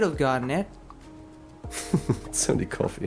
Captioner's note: chuckles